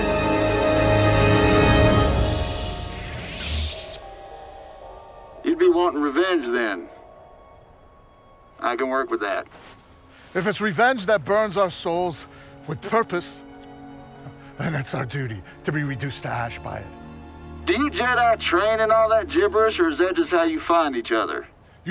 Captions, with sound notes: (dramatic music) (lightsaber zips) - You'd be wanting revenge then. I can work with that. - If it's revenge that burns our souls with purpose, then it's our duty to be reduced to ash by it. - Do you Jedi train in all that gibberish or is that just how you find each other?